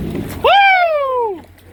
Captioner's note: excited WOOOO!